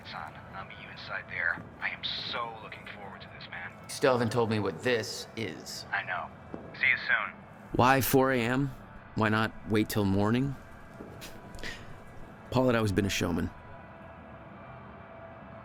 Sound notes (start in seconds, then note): 11.2 laughs